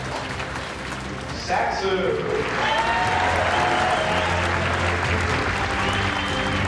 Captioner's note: applause